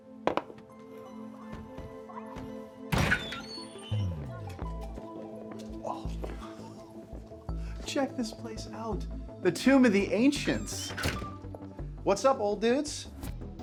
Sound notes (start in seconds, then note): 0.2 eerie music; 2.8 door squeaks